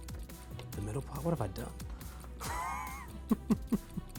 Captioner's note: laughs